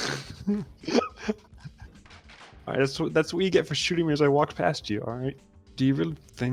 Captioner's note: laughs